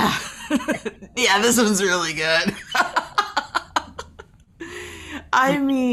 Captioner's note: laughing; laughing